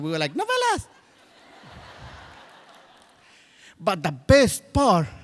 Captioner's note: crowd laughs